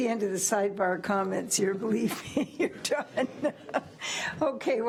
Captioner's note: laughs